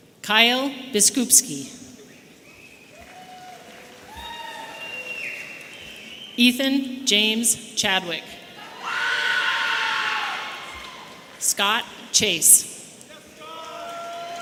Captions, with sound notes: Kyle Biskupski. (audience cheering) Ethan James Chadwick. (audience members screaming) Scot Chase.